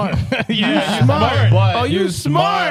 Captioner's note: laughing